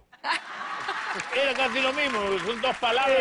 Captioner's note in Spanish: Risas